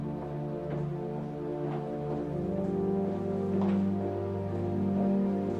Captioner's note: footsteps thumping